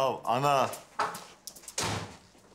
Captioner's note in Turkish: kapı çarpıyor